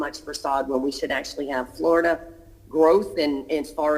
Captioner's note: ~interference~